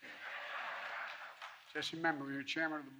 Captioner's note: laughter